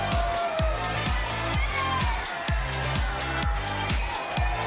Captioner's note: all cheering; energetic upbeat music